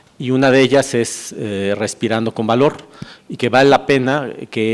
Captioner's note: breathing bravely